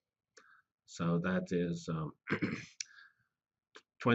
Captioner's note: cough